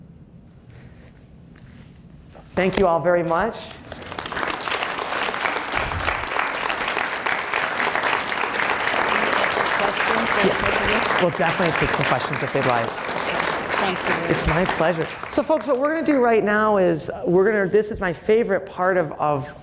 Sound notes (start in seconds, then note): 4.3 applause